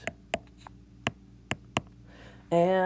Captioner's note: tapping sounds